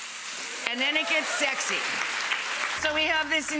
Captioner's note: audience cheering